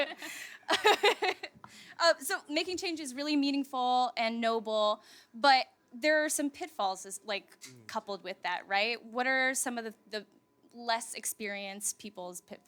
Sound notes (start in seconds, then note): 2.2 laughter